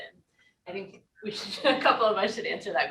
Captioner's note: chuckles